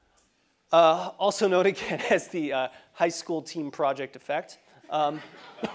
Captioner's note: laugh